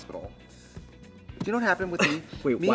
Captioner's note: Katya laughs